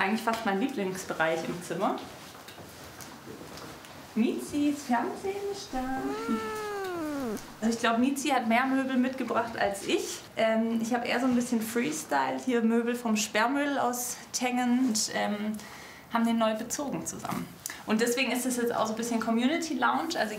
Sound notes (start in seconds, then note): 5.7 meowing